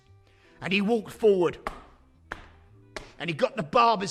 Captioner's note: footsteps